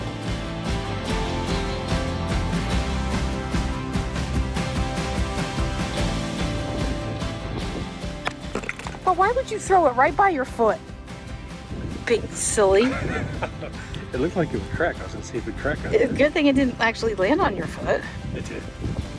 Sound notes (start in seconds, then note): 0.2 upbeat music; 8.0 rock clatters; 12.8 laughs